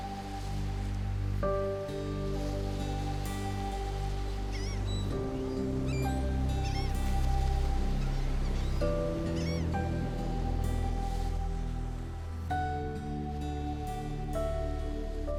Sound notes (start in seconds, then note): 4.2 birds cry; 10.9 tranquil music